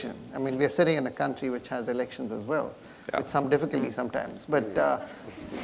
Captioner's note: laughter